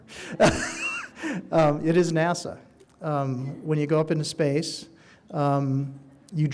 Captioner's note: laughing